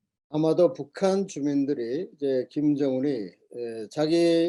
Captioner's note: speaking Korean